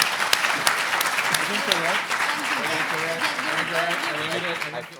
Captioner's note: audience applauding